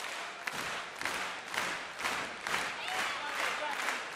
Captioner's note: fans chanting